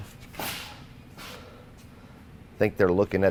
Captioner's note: metal clanks